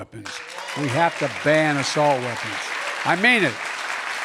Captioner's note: applause